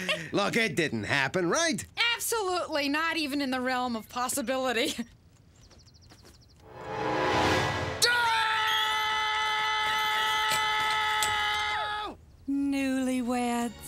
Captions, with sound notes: Look, it didn't happen, right? Absolutely not even in the realm of possibility. ( Bernice and Duckman screaming ) Newlyweds.